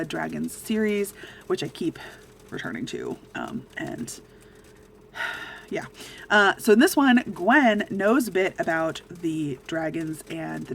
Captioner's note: sigh